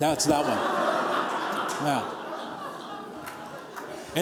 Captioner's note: laughter